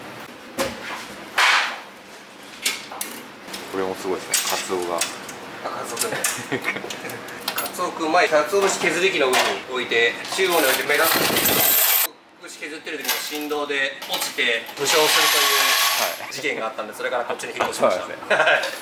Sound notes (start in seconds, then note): 6.4 laughs